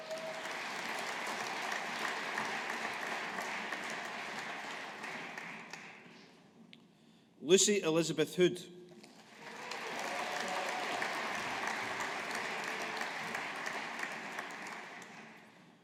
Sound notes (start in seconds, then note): 0.0 audience applauding; 9.0 audience applauding